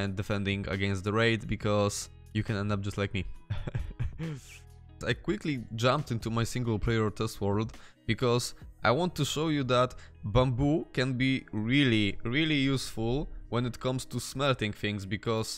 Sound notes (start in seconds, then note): 3.5 scary laughing noises